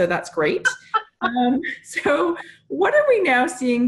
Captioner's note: laughs